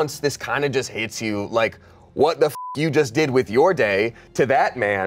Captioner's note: beep